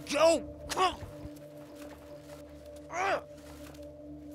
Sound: grunts

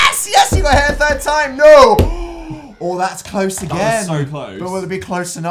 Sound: gasp

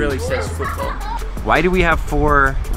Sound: voiceover

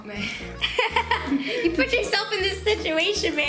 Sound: laughs

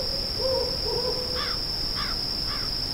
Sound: crow in the distance

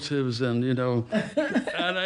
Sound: laughs

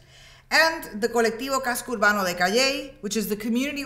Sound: speaks in Spanish

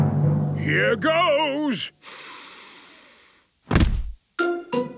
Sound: dramatic drumming music; sniffs

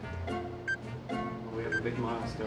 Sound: clock ticking

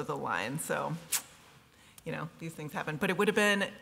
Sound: clicks tongue

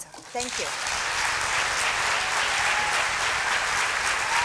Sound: applause

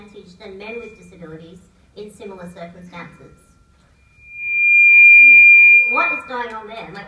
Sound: loud feedback noise

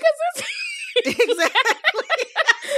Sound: laughter

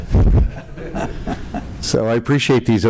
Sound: laughter

